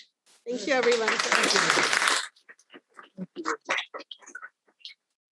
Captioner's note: audience applauding